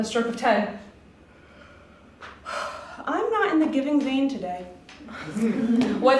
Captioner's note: yawn